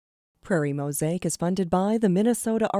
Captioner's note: voiceover